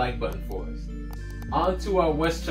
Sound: computer mouse clicking

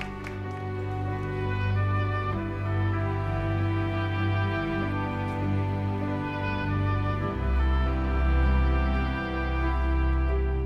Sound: cheers and applause

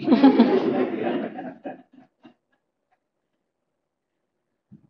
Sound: laughter

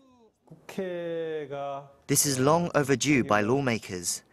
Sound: Korean

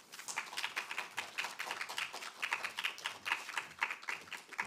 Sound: audience applauding

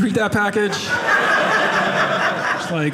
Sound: audience laughing

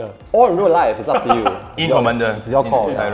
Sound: laughs

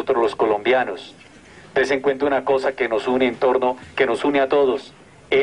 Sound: audio in Spanish

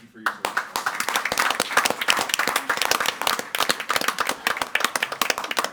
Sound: audience applauding

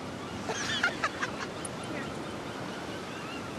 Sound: laughter

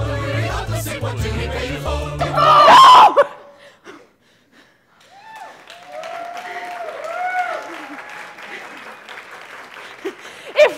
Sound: applause

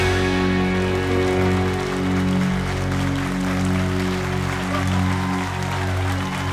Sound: cheers and applause

